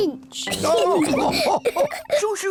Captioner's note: all laugh